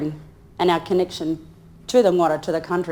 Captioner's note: speaks in foreign language